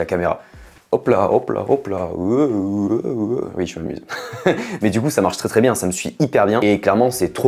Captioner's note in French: rires